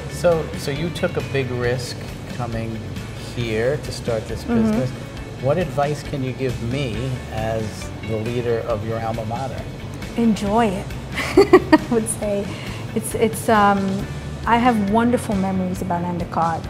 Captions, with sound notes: - You took a big risk coming here to start this business. What advice can you give me as the leader of your alma mater? - Enjoy it (laughs), I would say. I have wonderful memories about Endicott